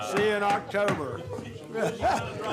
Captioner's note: chorus of ayes